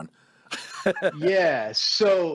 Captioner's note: laughing